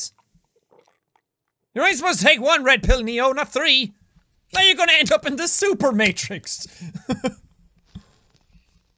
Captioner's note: chuckles